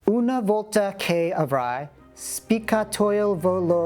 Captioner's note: Italian